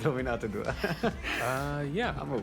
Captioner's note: chuckles